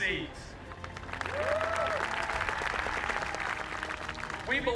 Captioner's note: cheers and applauses